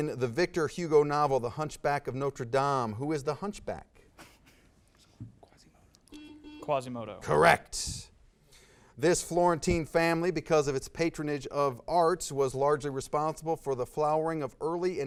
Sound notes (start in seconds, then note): 4.0 laughs quietly; 5.9 whispering; 6.1 buzz